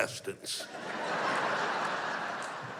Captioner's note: laughter